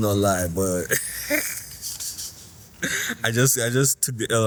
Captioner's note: laughs in pain